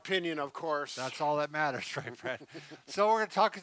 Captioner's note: both chuckling